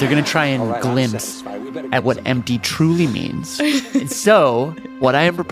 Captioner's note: laughs